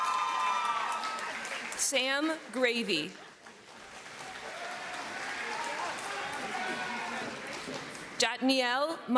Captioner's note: cheering